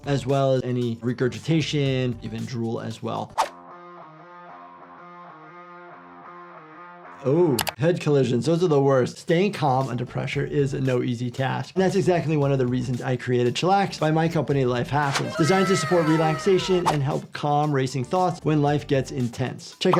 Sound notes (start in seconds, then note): 3.6 upbeat music; 7.6 keyboard clicking; 14.6 upbeat music